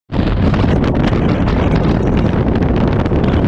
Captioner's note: wind blowing